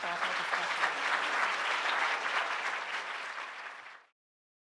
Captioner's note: applause